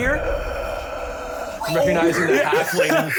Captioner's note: deathly wheezing